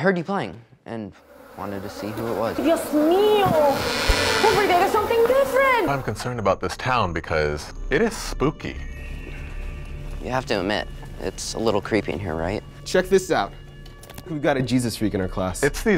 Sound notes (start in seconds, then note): 2.7 speaks in Spanish; 8.7 eerie music